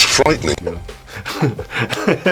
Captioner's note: laugh